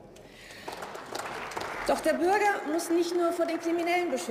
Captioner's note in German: Beifall